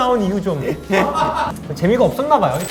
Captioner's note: laughing